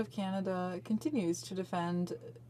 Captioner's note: speaking french